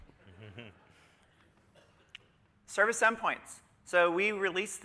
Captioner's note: laughter